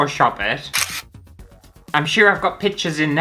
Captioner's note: camera Click